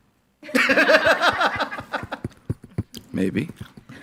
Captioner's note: group laughing